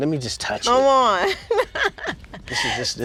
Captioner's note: laughing